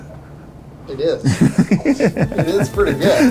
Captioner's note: laughing